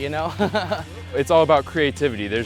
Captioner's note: laughs